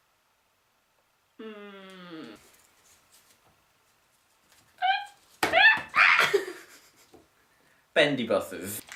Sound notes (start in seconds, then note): 5.5 uncontrollable shrieking